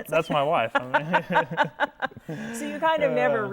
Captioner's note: laughing